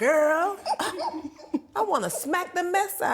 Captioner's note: laughing